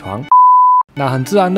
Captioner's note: beep